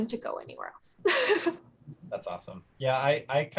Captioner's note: laughs